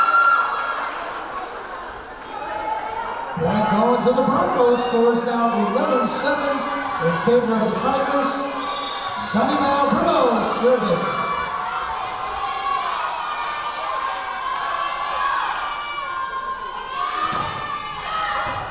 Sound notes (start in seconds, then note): 0.0 clapping; 0.1 cheering; 8.6 whistle blowing; 13.4 yelling